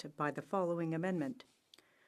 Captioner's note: speaking french